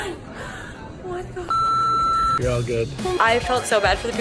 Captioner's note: beep